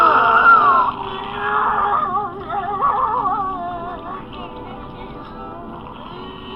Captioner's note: wheezes Loudly; sobbing Deeply